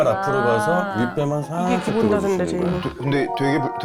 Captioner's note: sound of creaking unusually